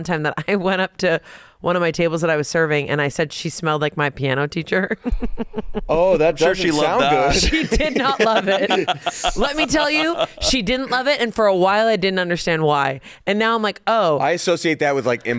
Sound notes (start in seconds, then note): 5.0 laughs; 8.9 hosts laughing